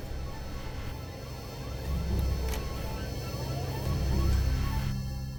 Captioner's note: music crescendos; lock clicks clicks